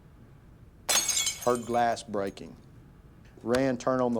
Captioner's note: glass shatters